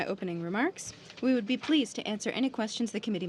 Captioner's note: speaking French